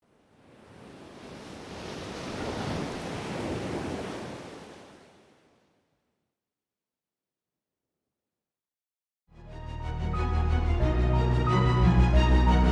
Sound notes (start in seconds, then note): 0.3 waves crashing